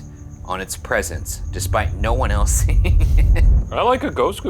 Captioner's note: laughing